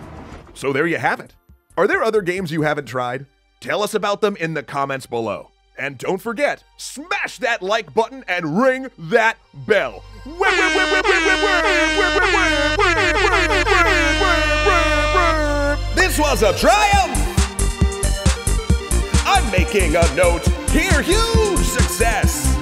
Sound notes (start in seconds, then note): 10.2 airhorn noises